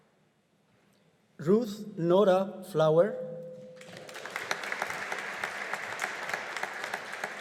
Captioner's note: audience applauding